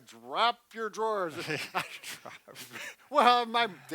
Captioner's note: both laugh